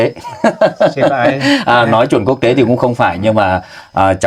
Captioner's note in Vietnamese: tiếng cười